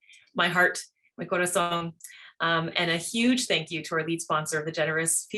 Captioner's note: speaks spanish